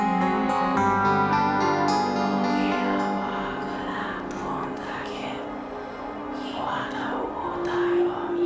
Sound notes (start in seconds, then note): 2.4 raspy whispering in foreign language